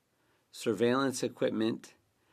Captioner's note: speaking French